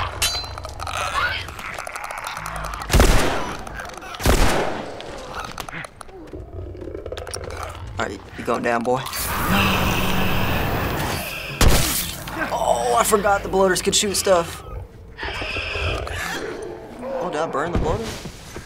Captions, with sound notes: (Clickers croak) (gunshots) (Bloater growls) - All right, you're goin' down, boy. (flames whoosh) Yaaah! (spores burst) Oh, I forgot the Bloaters could shoot stuff. (Clickers shriek viciously) (Bloater groans) Oh, did I burn the Bloater?